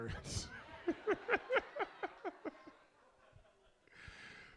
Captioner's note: audience laughs